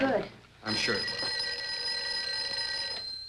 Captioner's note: phone ringing